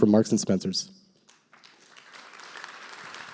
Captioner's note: applause